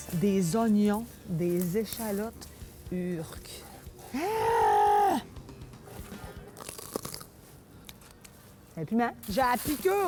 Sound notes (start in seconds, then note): 0.0 more commentary in french; 6.4 crunching sound from biting into pepper; 8.0 commentary in french